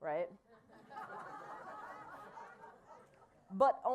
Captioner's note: laughter